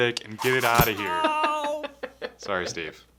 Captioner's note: laughing